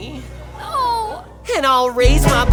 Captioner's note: audience laughs, Craphole whimpers again